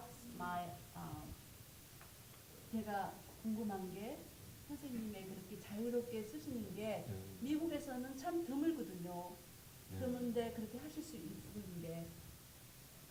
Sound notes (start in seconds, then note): 1.3 speaking Korean